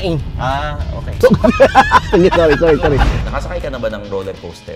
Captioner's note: both laughing